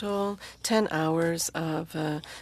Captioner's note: speaking french